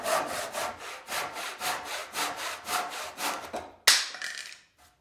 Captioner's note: saw rasping; wood clacking